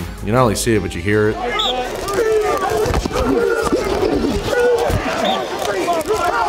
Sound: players shouting; thudding

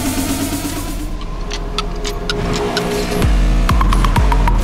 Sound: clock ticking

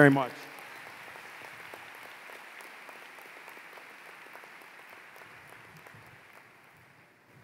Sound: applause

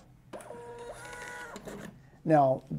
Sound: printer whirring

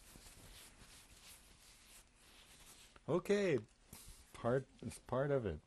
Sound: pauses for 6 seconds

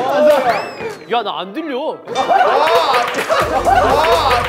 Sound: members burst out laughing

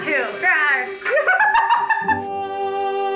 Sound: woman laughing

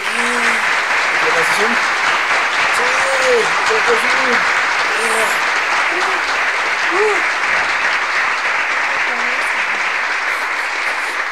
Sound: applause

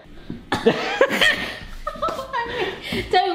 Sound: laughing

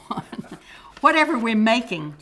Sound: laughter

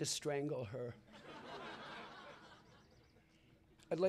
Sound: laughter

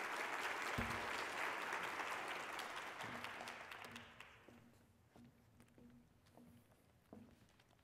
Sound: applause

